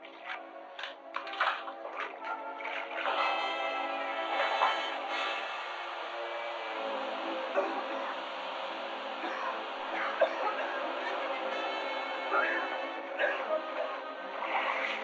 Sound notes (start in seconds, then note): 0.7 bomb clattering; 4.2 gas hissing; 7.4 coughing